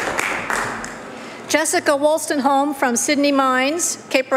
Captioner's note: applause